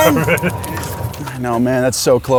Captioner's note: laughs